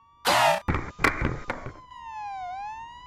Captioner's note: skateboard drops; police sirens